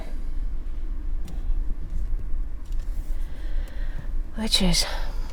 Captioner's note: car engine revving